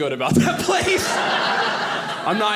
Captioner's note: audience laughing